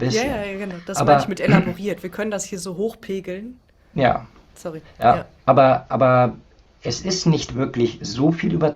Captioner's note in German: räuspern